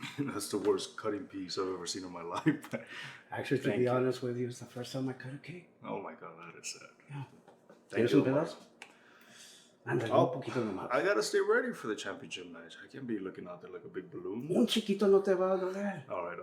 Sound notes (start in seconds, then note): 7.4 Spanish; 14.4 Spanish